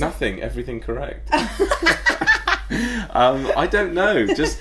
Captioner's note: laughing